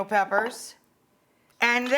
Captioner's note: jar clunks